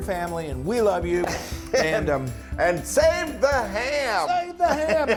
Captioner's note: laugh